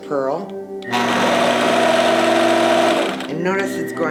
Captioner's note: machine whirring